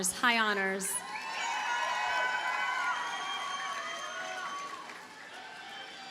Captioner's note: audience cheers and applauds